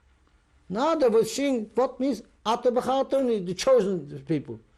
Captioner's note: non-english; non-english